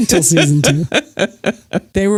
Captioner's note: laughs